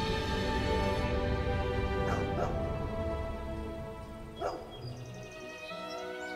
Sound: dog barking and birds chirping

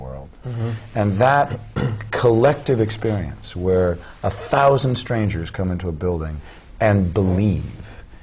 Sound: clears throat

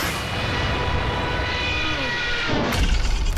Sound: Mikey grunts

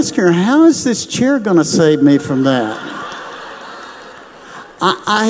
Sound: laughs

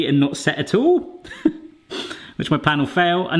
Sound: laughter

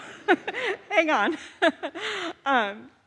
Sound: laughs

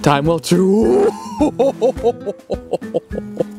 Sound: gasping; chuckling

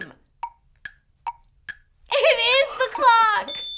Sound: clock ticking

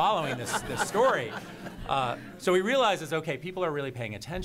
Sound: laughter

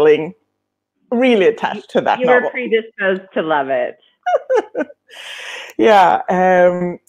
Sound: laughing

